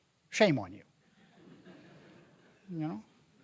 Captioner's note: audience laughing